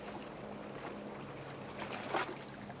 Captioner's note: water swashing